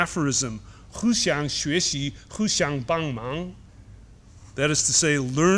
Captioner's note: speaks chinese